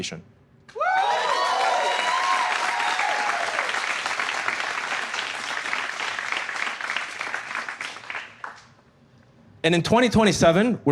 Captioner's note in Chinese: 觀眾歡呼